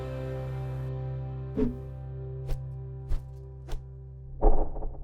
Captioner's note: air whooshing